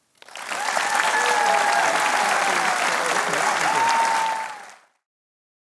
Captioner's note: cheering and applause